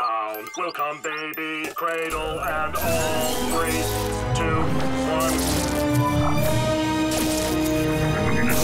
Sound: none

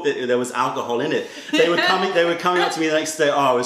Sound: laughter

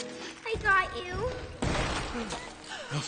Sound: banging door

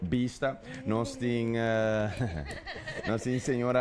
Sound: laugh

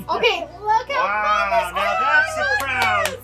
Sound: laughing; clapping

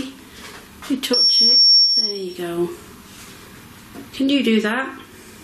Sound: REM Pod screeches

